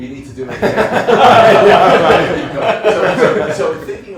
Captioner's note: laughter